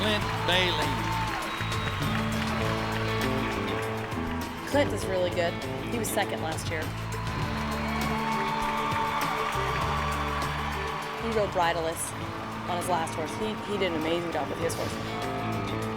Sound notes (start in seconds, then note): 7.8 cheers and applause